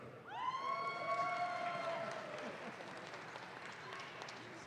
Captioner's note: audience claps